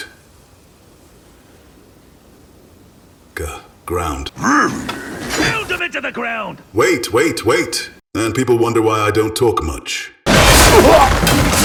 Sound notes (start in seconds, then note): 4.3 snarls